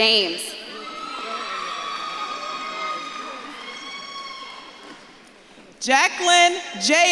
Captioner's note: audience claps and cheers